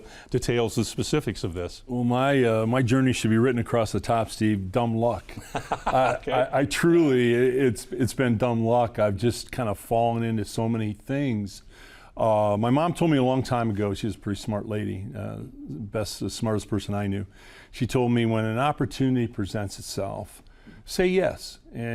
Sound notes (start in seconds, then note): 5.3 laughing